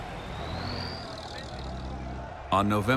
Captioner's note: people cheering in background